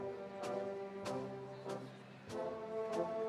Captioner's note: none